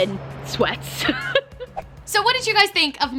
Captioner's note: laughs